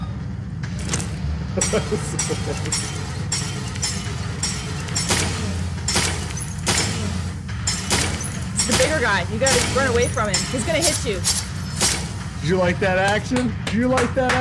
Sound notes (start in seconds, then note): 1.5 laughter; 4.4 nail gun shooting; 13.2 clapping